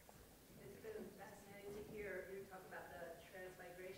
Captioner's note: voiceover